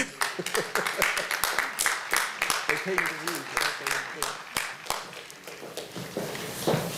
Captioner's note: applause